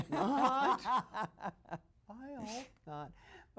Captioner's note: laughs